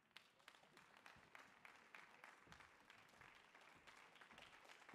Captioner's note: audience clapping